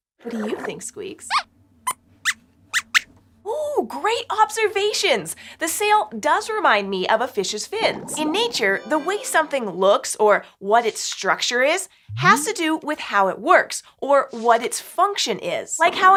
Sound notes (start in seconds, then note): 1.0 squeaks squeaks